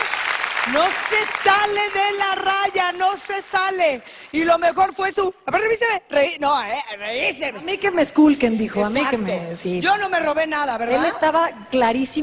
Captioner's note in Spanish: aplausos